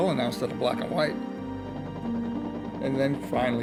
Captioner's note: helicopter rotors whirring